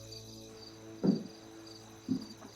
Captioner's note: knocking